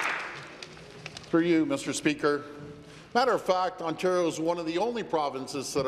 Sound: applause

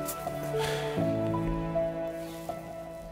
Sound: sigh

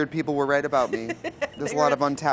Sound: laughs

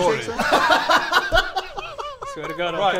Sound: disobedient giggles

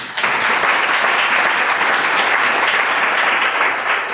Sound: clapping

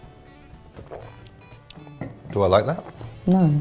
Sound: glugs

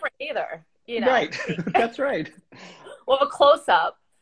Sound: laughs

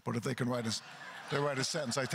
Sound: crowd laughter

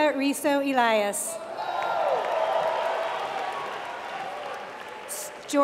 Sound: applause

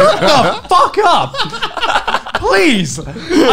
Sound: laughing loudly

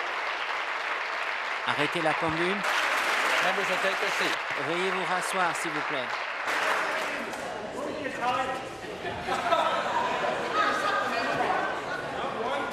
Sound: applause

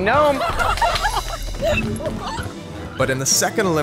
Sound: laughter

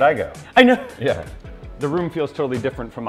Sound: chuckles

